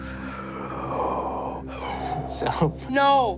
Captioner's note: inhales